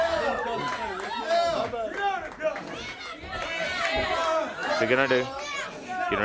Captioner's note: crowd chatter